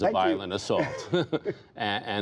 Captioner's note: laughter